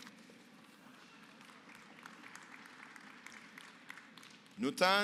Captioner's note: applause